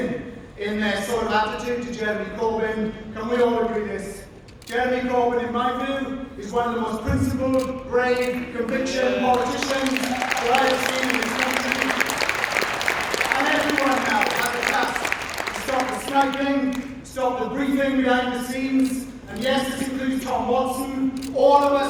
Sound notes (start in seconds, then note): 9.1 applause